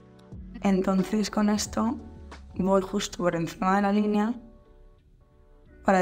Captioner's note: speaking in Spanish